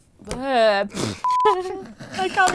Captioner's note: sputtering and giggling